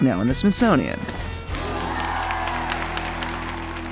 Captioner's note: cheering